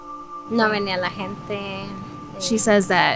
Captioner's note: speaks Spanish